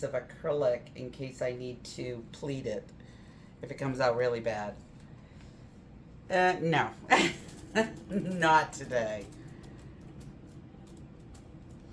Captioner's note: laughs